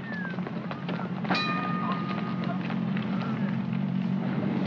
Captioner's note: footsteps scrambling; station bell dings; rumbling sound